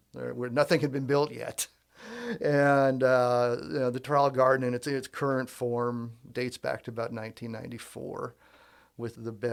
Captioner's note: laughs